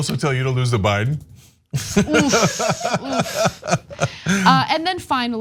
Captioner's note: laugh